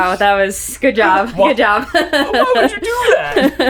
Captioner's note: laughing